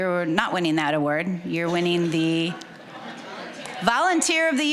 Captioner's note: audience chuckling